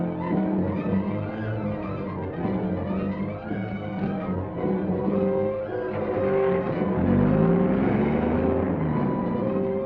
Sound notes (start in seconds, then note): 5.7 car roaring off